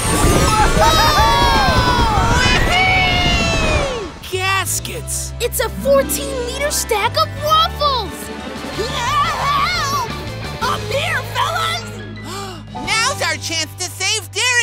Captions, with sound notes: -Whoa! -Whoa! Wee hee! It's a 14 meter stack of waffles! [screaming] Up here fellas! [gasps] Now's our chance to save Darrington!